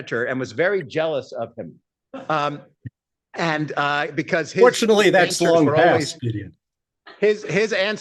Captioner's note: laughter